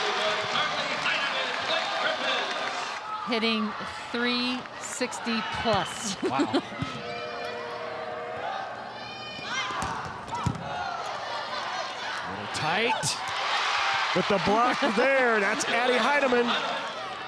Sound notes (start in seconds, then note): 6.0 chuckles; 9.7 ball thumping; 11.0 players shouting indistinctly